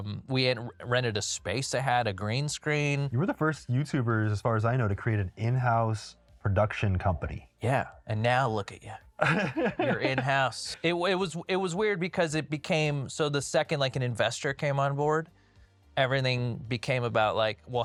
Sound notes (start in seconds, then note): 9.2 laughs